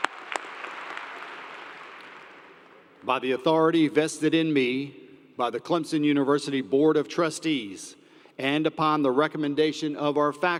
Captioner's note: cheers and Applause